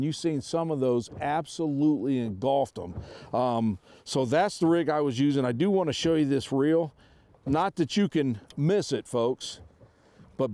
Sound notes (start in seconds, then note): none